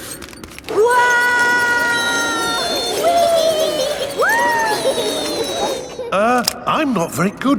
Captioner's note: all yelling